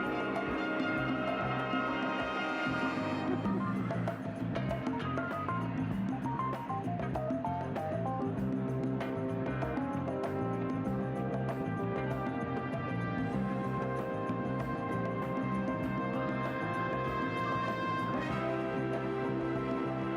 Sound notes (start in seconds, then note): 0.0 ceremonious music continues; 6.4 audience chattering